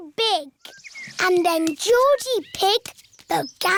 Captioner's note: none